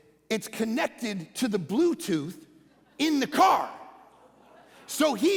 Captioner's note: congregation laughing